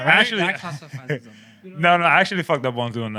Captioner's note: speaking Spanish